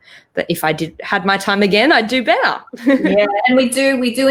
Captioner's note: chuckles